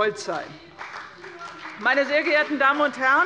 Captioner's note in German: Beifall bei der CDU und dem BÜNDNIS 90/DIE GRÜNEN